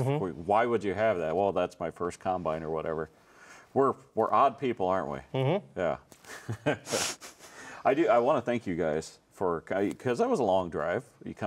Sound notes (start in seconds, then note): 6.3 laughs